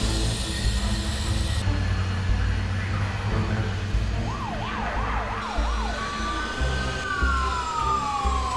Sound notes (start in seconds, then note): 2.4 sirens blare